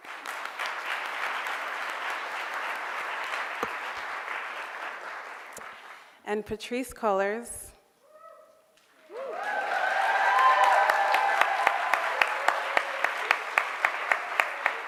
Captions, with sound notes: (audience clapping) - And Patrisse Cullors (audience cheers and clapping).